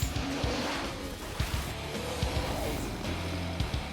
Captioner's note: roar